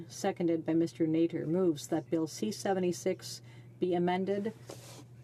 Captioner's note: speaking French